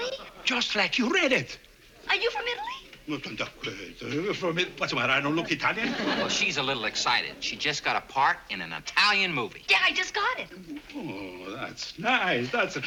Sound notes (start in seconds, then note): 3.0 stammers